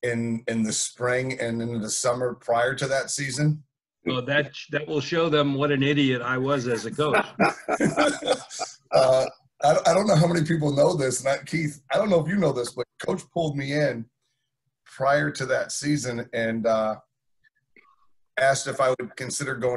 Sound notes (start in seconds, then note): 6.7 laughing